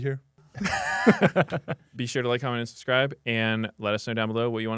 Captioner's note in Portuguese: risos